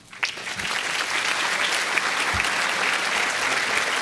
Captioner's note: applause